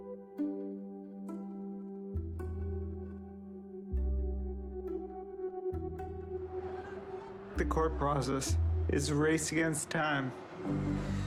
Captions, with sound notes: (traffic sounds) The court process is a race against time.